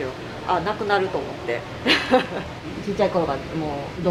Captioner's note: laughs